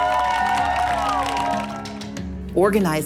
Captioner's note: cheers and applause